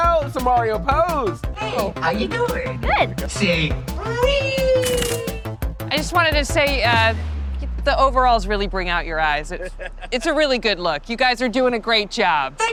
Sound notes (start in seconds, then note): 4.8 camera clicks